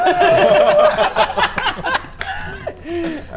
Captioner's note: anti-Baradun laughs